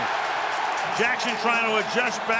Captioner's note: cheering